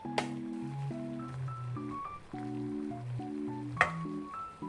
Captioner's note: hahahahaha